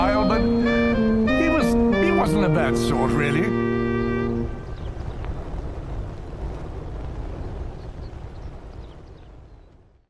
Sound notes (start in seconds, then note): 4.4 fire rumbling; 6.3 birds chirping